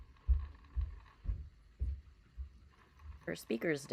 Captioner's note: grinding noise continues